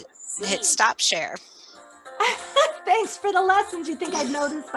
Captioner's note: laughs